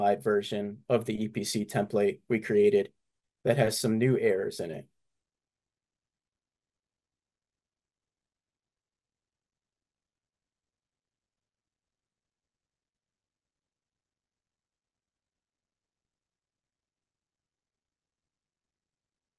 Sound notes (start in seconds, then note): 10.5 silence